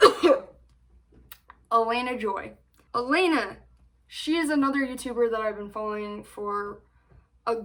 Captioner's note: coughs